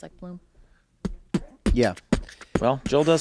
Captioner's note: Charlie beatboxes